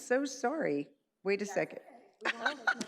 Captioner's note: colleagues speak indistinctly; laughs